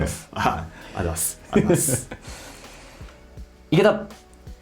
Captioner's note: laughs